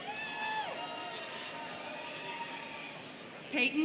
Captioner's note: students cheering